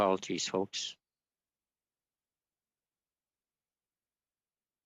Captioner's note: silence